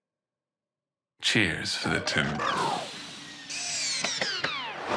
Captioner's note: powers down